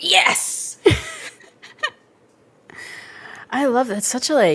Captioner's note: both laugh